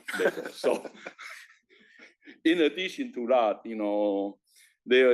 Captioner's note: laugh